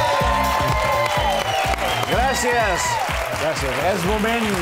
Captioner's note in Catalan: aplaudiments